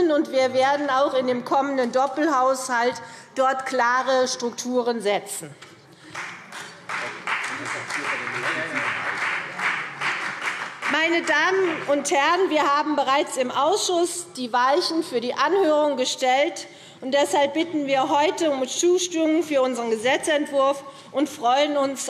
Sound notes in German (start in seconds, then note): 6.0 Beifall CDU und vereinzelt BÜNDNIS 90/DIE GRÜNEN